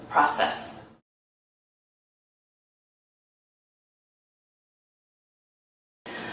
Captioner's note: silence